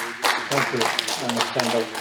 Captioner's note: applause